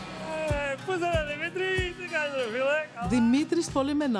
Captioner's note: speaking in greek